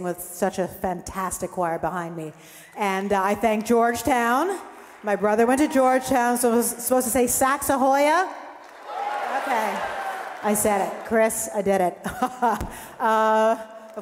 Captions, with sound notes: with such a fantastic choir behind me. And I thank Georgetown. My brother went to Georgetown so we're supposed to say, "Saxa Hoya"? (audience applauding) Okay, I said it. Chris, I did it (laughs)